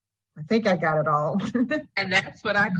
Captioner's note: laughs